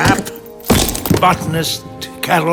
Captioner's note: helmet thuds